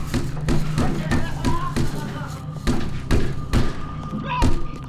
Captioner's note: banging on door; iggy sobbing